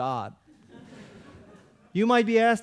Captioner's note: audience laughing